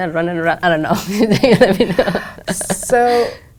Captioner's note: laugh